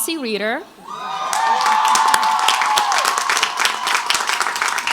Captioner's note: crowd applauds